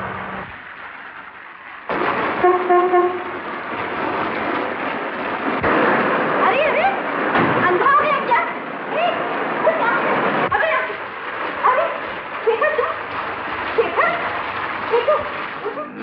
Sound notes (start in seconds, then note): 2.4 horn Honking